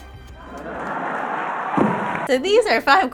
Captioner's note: audience laughing